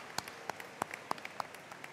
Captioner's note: applause